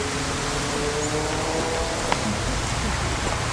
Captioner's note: motorcycle Noise